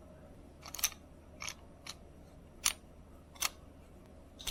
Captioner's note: plate clinks